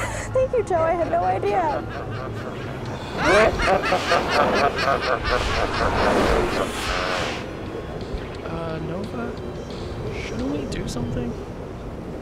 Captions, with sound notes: Thank you Joe, I had no idea. [evil laughter continues, wind howling] Uh Nova? Shouldn't we do something?